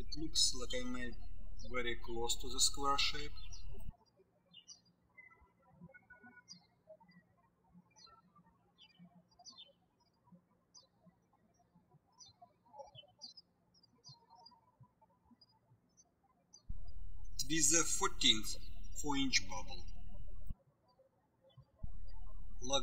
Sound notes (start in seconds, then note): 4.0 birds chirping